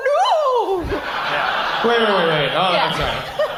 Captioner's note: audience laughs